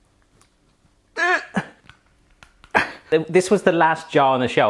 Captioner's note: grunting